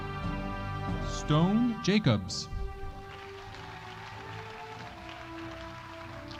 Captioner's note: audience applauding